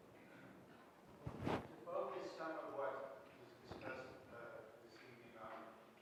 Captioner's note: audience member speaking softly off microphone